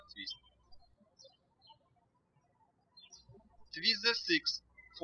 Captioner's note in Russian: птички щебечут